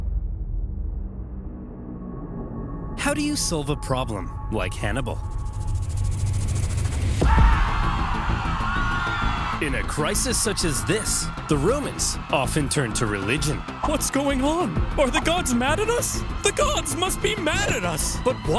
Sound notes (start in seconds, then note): 0.3 ominous music; 7.3 Romans screaming